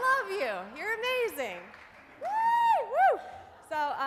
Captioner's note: cheers